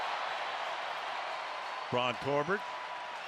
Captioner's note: cheers, applause